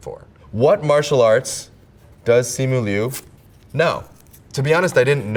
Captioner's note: paper rips